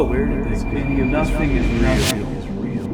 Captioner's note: distant confused voices